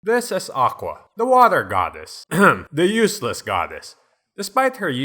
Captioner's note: ahem